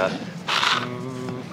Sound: hums

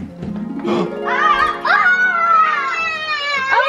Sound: screams

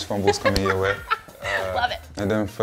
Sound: laughs

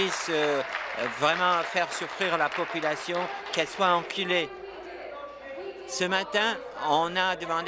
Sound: applause

